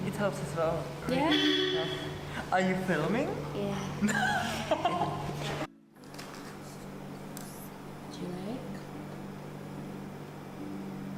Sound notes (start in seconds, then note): 4.0 laughter